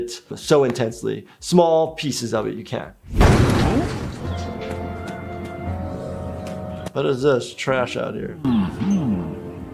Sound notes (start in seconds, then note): 3.1 crash